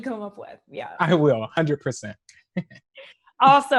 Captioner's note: laughter